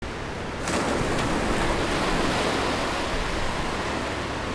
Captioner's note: waves crashing